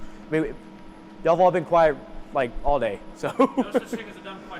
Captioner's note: laughs